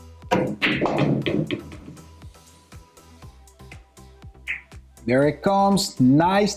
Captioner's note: pool balls clacking and thudding